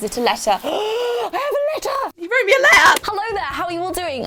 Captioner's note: gasp